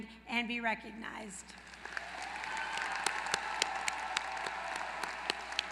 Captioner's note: applause